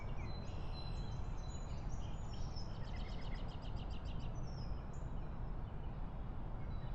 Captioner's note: ambient outdoor noise